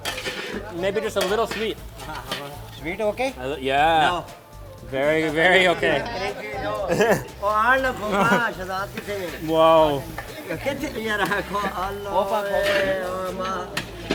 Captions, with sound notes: Maybe just a little sweet. - Sweet okay? - Yeah, very very okay. (laughs) (man speaks foreign language) whoa!